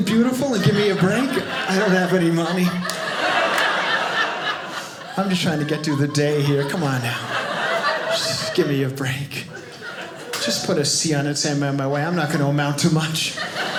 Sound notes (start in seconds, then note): 3.0 audience laughing